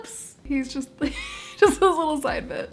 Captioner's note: laugh